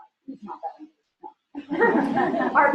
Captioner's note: laughter